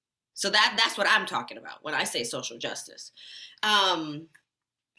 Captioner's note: none